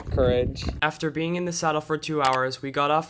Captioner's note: voiceover